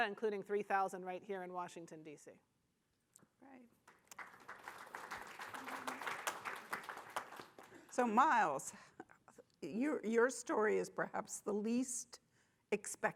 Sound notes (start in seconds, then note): 3.9 audience applauding